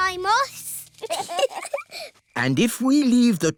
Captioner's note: both giggle